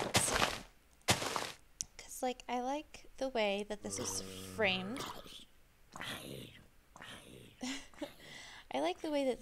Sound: laughs

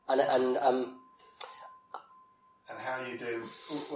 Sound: laughs

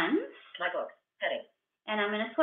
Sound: VoiceOver voice

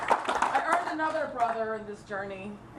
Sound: applause

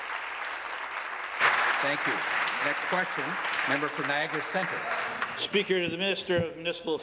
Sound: applause

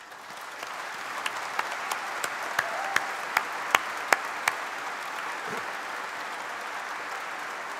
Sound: applause

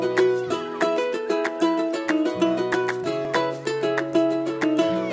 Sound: upbeat music begins; children yelling

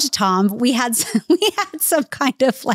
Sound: chuckling

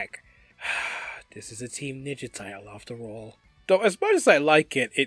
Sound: sighs

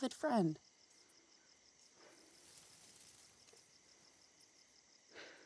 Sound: crickets chirping

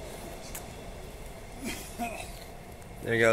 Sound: cough

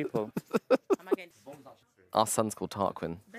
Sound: laughing

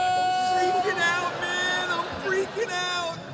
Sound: screams

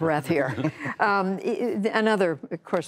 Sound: laughter

